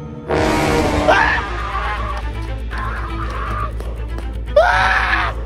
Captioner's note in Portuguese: gritos